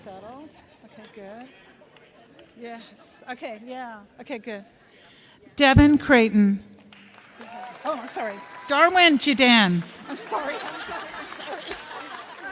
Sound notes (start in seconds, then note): 7.4 audience cheers